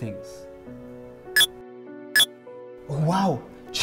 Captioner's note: Mind-blower beeps